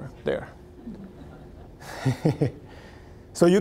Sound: audience chuckling

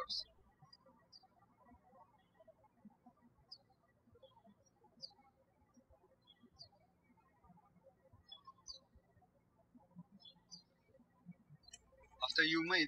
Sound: birds chirping

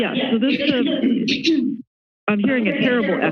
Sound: clears throat

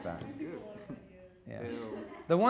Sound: audience murmurs

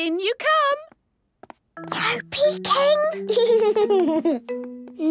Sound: whispering; Danny giggling

